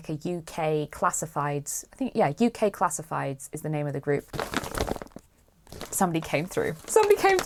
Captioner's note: rustling